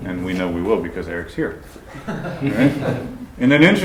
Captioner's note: laughter